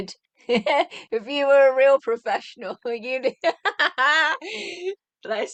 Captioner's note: laughing